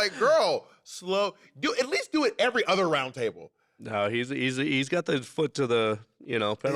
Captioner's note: none